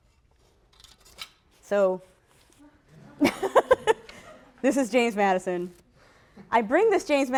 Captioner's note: laughter